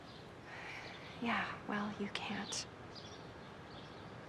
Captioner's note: sighs